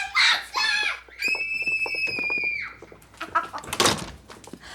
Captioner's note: children screaming